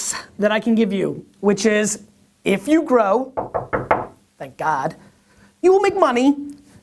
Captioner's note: wood thuds